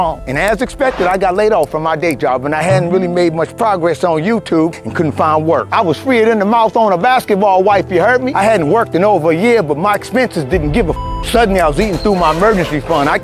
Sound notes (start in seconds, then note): 10.9 beep